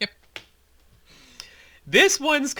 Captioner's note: annoyed sigh